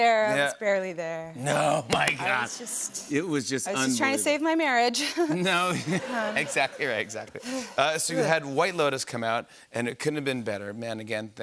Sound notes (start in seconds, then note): 5.0 laughter